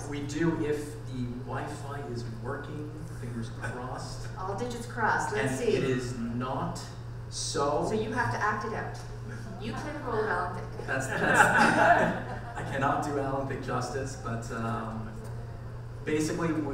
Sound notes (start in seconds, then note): 10.7 audience and panel members laughing